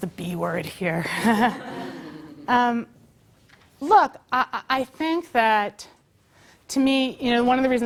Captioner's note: laugh